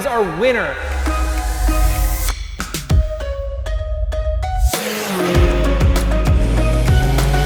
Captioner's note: bright music; racing engine